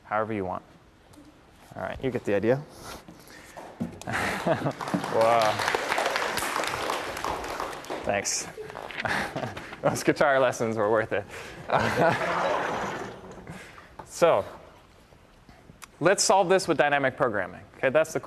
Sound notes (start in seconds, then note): 4.2 applause